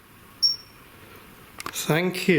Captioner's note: high-pitched beeping